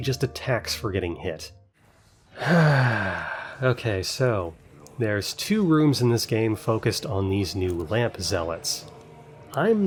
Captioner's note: sigh